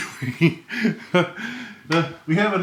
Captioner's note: chuckles